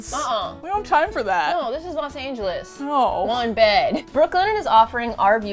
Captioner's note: laughs